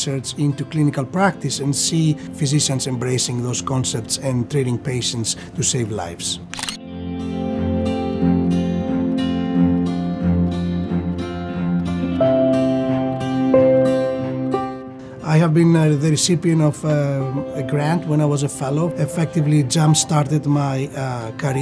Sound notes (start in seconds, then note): 6.4 camera shutter clicking; 8.3 cheerful instrumental music